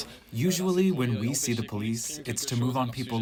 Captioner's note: through translator